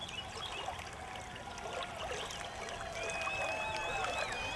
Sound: people cheering

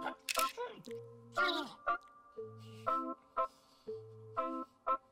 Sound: noisemaker hoots; camera shutter snaps

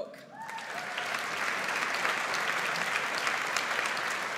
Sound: audience applauds

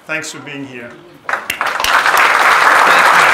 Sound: audience clapping

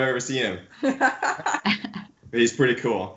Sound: laughs

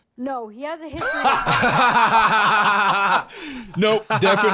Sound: both laughing

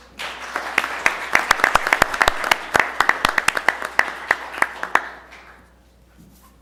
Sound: applause

